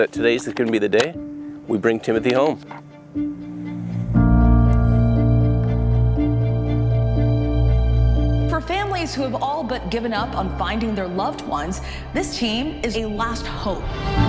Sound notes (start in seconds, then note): 8.6 voiceover